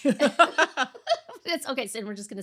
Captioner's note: laughing